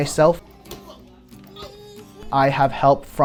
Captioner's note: child laughing